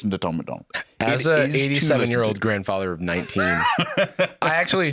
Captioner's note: laughing